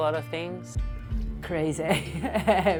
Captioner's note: laughs